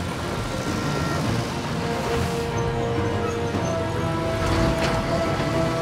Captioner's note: construction machines rumbling